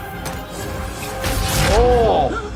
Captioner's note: sword whooshing